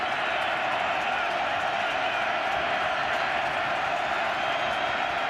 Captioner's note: crowd cheering